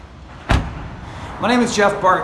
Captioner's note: door closes